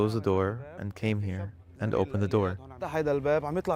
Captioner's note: speaking alternate language